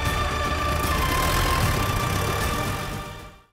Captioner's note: car revving